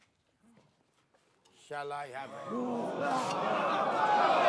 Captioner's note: crowd gasp; crowd shouting